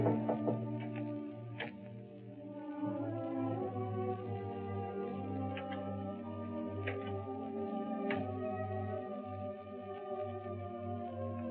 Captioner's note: knock on door